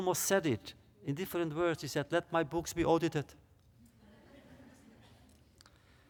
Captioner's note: laughter